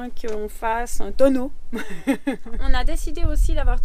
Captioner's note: laughs